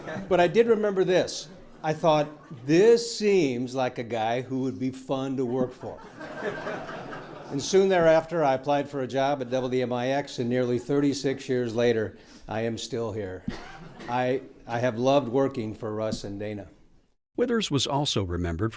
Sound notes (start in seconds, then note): 0.0 laughing; 9.4 laughing